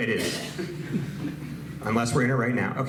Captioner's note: audience laughs